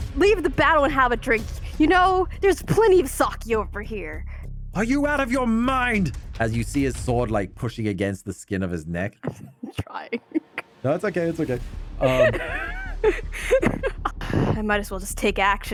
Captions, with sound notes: leave the battle and have a drink. You know, there's plenty of sake over here. Are you out of your mind? As you see his sword like pushing against the skin of his neck. I'm trying. No, it's okay, it's okay. (laughing) I might as well just take action